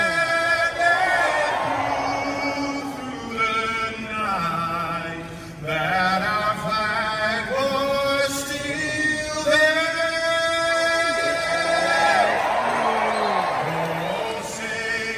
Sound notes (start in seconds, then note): 12.1 applause